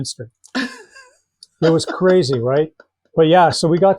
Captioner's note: laughing